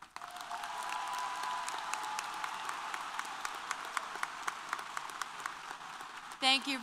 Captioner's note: applause & Cheers